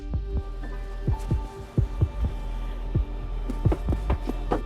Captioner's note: heartbeat